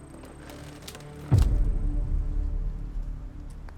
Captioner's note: box creaks